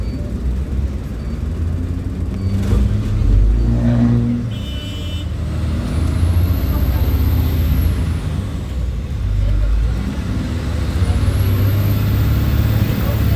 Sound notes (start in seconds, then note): 4.3 bus horn beeping